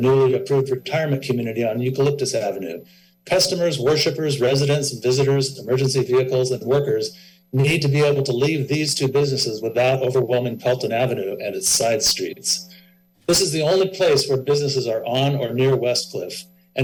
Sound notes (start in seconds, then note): none